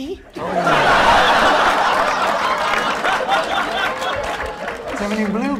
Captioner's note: laughter